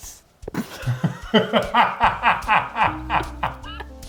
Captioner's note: both laughing